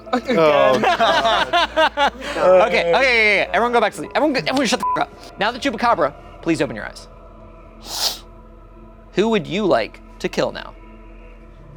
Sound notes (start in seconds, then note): 0.2 laughing; 4.8 beep